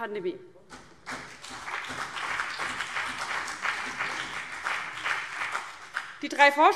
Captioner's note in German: Beifall BÜNDNIS 90/DIE GRÜNEN und vereinzelt CDU